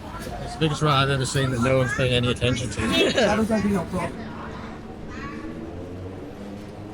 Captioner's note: laughs